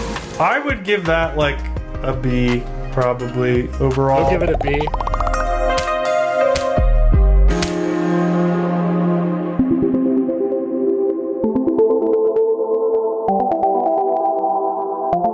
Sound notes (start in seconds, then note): none